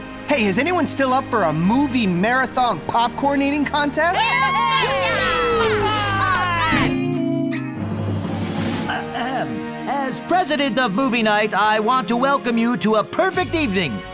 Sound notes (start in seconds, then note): 4.0 everyone cheers; 7.8 drumroll